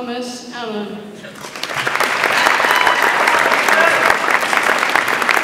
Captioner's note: audience applauds